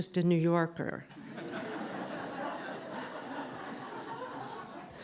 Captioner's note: laughter